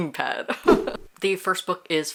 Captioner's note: laughing; whoosh